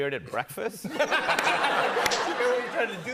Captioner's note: laughter